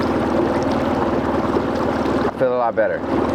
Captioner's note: river babbling